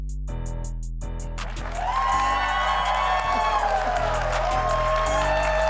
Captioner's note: audience cheering